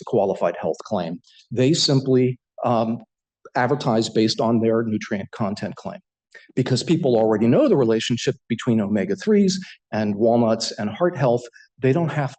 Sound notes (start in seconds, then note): none